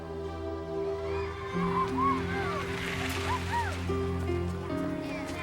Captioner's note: kids shouting